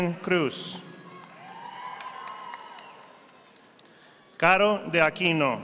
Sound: audience applauding

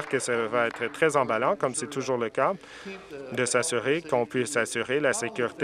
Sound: applause

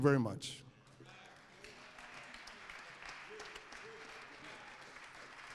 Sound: applause

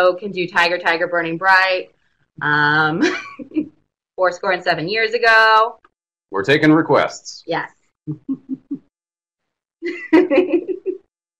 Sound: laughs

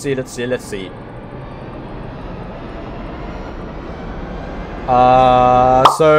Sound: wheel spinning fast noises

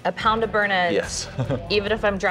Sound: laughs

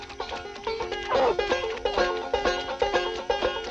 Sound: barking

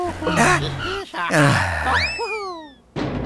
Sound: Forklift 1 groans

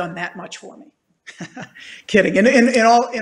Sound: chuckling

